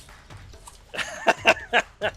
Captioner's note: laughs